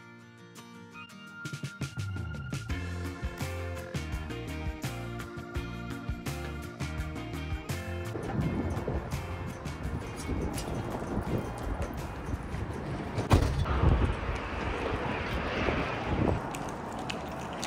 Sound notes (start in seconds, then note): 13.2 door thuds